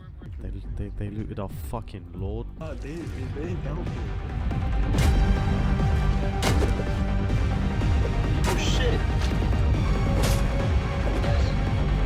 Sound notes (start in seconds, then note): 2.2 metal clanking; 2.2 music picks up